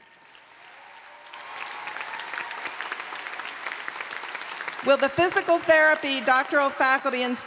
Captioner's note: applause